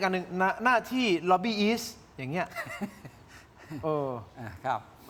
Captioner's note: laughter